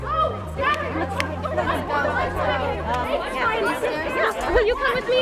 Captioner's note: people chattering